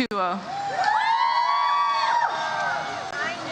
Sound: audience cheers

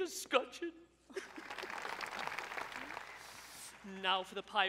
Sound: sobs; audience applauds

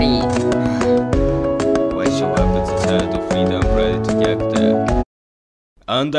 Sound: sigh

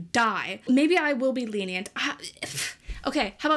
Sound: mumbles

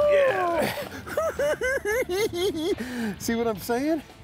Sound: cackling

